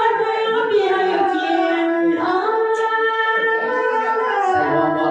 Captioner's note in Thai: ปรบมือ